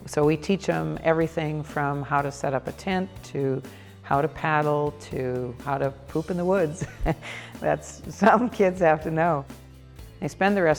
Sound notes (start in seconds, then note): 7.5 laughs